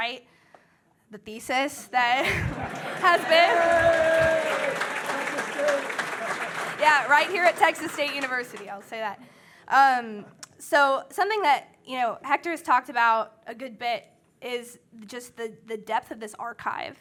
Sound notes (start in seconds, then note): 2.4 audience cheering; 5.1 audience applauding